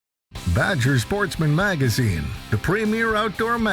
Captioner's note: voiceover